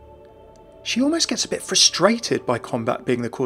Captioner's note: voiceover